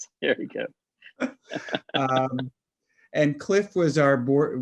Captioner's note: laughing